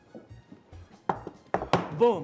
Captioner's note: Zeke stomps